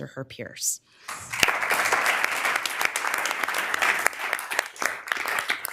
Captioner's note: members applauding